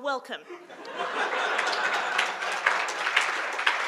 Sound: audience laughing; audience applauding

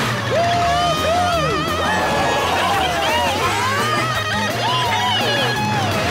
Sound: cheering

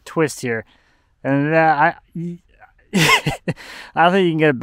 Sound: laughs

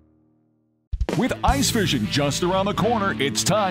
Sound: voiceover

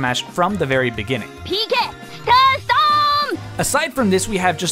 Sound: Ness yelling out "PK Starstorm"

